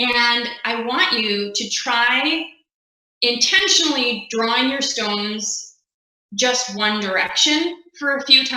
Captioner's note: laughing